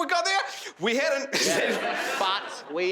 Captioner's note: crowd laughing